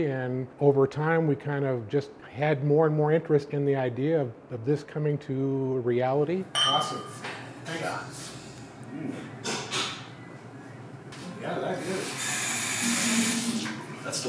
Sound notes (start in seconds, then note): 6.5 glasses clink